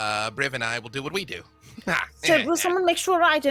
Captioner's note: laughs